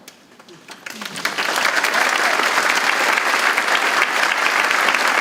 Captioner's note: audience applauding